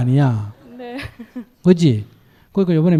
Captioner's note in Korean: 질문자 웃음